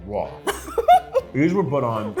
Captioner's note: laughs